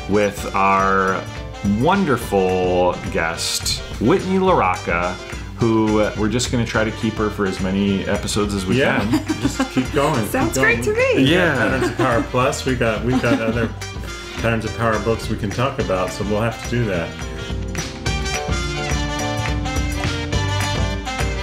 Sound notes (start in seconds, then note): 8.9 laughs; 17.6 upbeat music